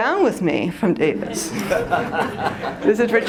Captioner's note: laughter